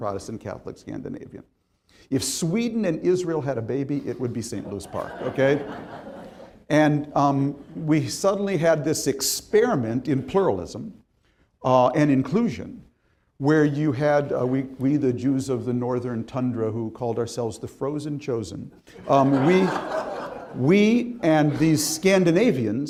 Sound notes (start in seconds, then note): 4.6 crowd laughing